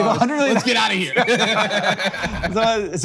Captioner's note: both laugh